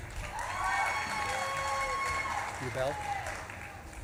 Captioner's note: audience claps and cheers